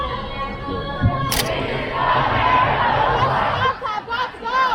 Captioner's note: crowd